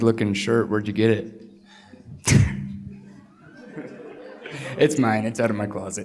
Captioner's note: laughter